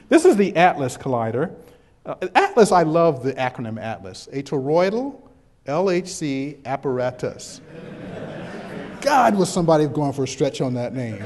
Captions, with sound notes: This is the ATLAS Collider. ATLAS -- I love the acronym ATLAS. A Toroidal LHC Apparatus [background chuckles]. God what somebody had gone for a stretch on that name [chuckles]!